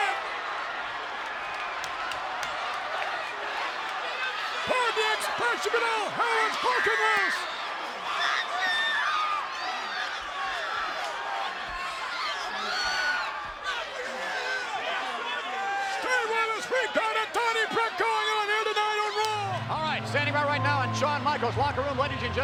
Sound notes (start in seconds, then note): 0.0 applause; 11.5 applause